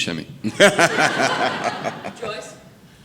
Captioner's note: audience laughing